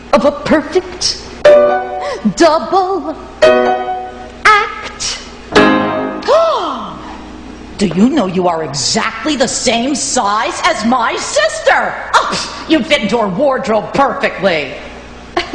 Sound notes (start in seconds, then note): 6.3 Velma gasps